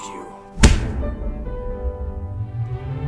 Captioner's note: kick; exciting music